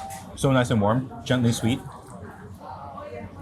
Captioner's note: slurps